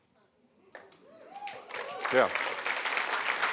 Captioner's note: applause